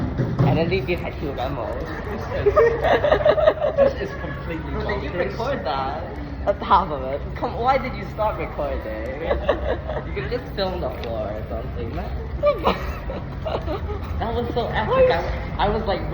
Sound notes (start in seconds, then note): 1.4 laughs